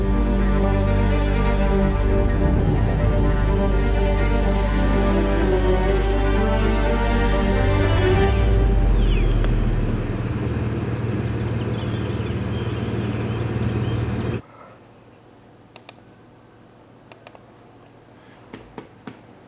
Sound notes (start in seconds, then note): 0.5 dramatic music; 8.2 birds tweeting; 15.7 mouse clicking